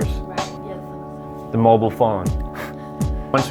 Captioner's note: laughs